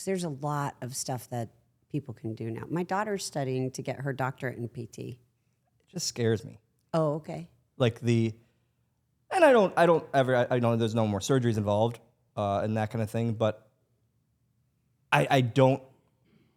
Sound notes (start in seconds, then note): none